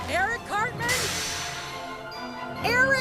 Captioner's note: bus door opening